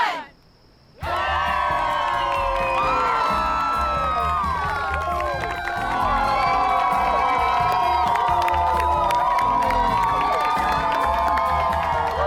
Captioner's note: crowd cheers, claps